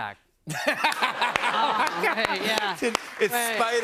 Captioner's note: laughs